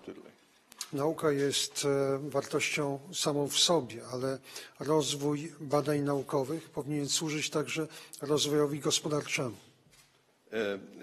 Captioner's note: speaking polish